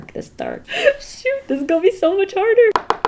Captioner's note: gasps